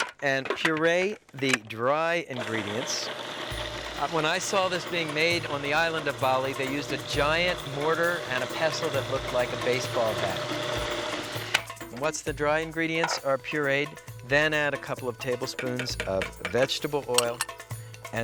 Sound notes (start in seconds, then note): 3.0 food processor grinding